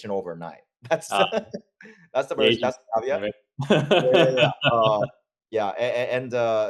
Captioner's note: laugh